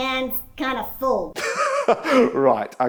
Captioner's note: laughing